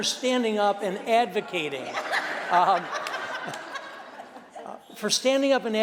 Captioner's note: laughter